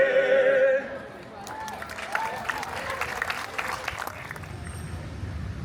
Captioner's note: guests cheering and applauding